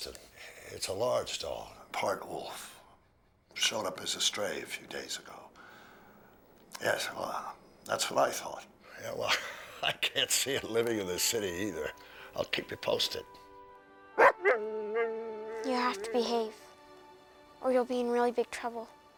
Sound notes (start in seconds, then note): 14.1 Buck barking